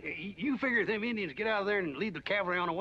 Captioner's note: none